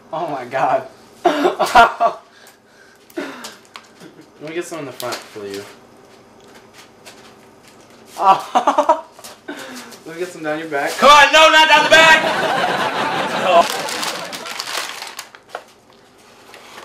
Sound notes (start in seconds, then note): 2.2 laughs; 8.2 laughs; 11.7 audience laughs